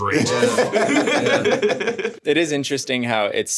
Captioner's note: group laughing